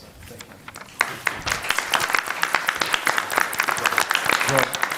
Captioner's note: applause